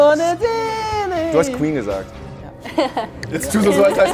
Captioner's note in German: Lachen